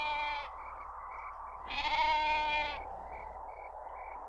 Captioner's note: goat bleating; insects chirping; wind whooshing